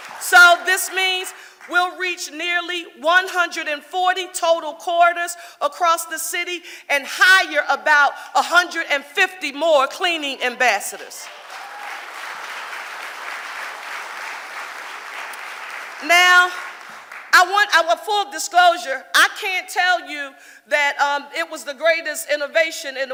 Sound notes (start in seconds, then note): 11.2 audience applauding